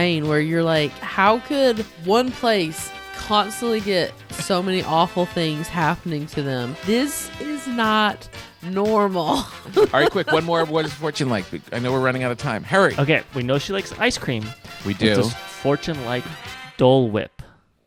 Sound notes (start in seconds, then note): 9.3 laughs